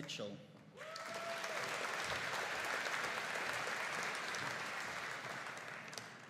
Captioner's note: audience cheering and applauding